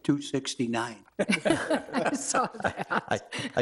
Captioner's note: members laughing